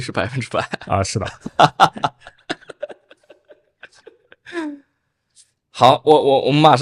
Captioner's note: laughter